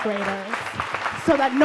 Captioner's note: audience claps